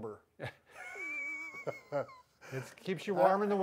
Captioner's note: chuckling